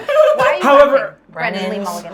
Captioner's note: laughing